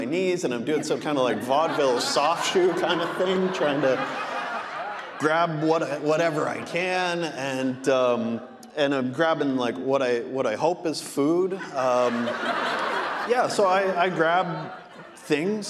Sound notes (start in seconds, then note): 6.3 audience laughing; 11.4 audience laughing